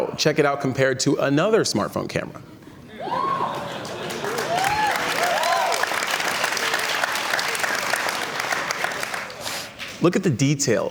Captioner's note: cheers and Applause